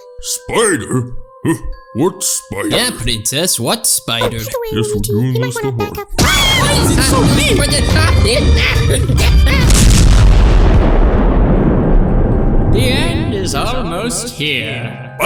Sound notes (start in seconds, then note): 2.4 chuckles; 6.2 mimi roars; 6.2 luigi screaming; 6.2 screaming